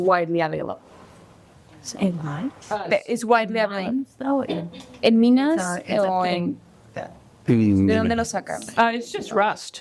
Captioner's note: translator and speaking spanish